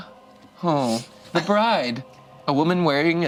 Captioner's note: gasps